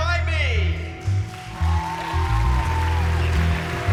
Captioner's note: cheering